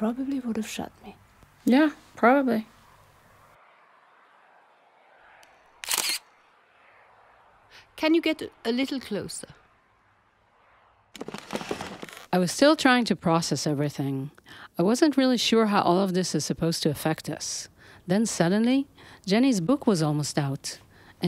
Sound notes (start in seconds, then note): 5.8 camera clicks